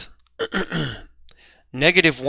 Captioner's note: clears throat